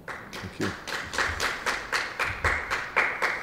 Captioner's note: applause